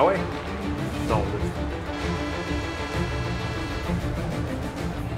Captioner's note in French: sirène